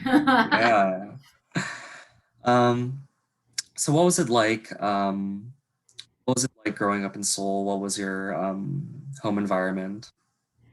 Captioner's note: laughs